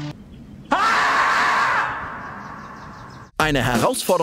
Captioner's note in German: lauter Schrei